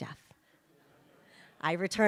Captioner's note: audience laughs